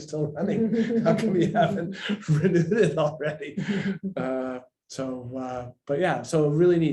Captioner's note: laughs